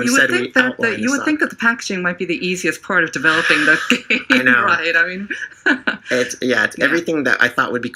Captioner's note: laugh